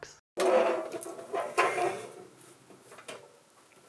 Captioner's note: kiln opening